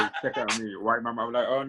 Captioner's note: laughing